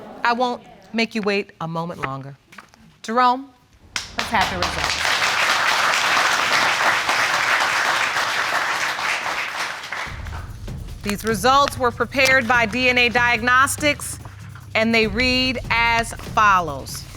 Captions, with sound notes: I won't make you wait a moment longer. Jerome, let's have the results. (AUDIENCE CLAPPING) These results were prepared by DNA Diagnostics, and they read as follows.